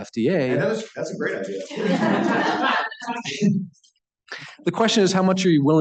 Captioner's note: laughter